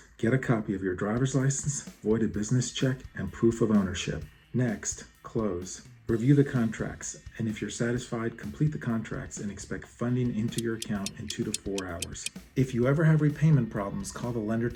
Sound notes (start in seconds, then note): 10.5 clock ticking